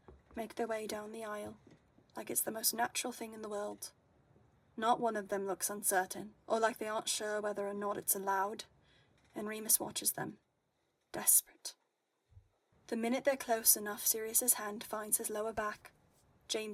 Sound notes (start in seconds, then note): none